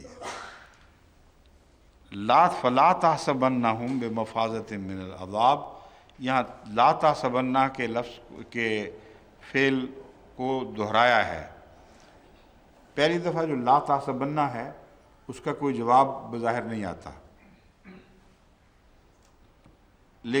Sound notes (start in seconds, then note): 2.1 Arabic